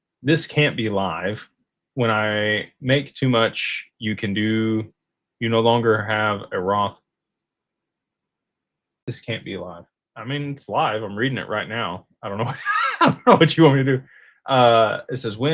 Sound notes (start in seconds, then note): 12.4 laughter